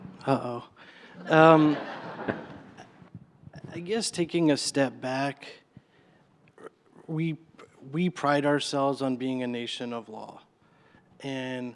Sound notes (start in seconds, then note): 1.2 laughter